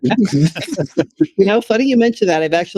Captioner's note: laughing